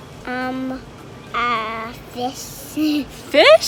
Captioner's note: laughs